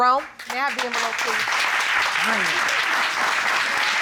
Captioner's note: audience applauding